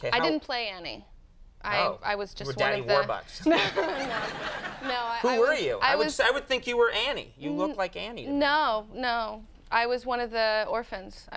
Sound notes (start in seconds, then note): 3.4 Molly laughing; 3.4 audience laughs